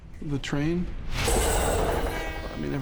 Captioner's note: metal clanging, train horn